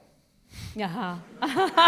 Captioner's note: laughter